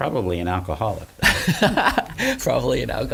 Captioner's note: laughs